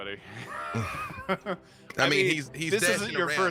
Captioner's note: chuckling